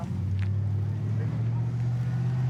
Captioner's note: truck driving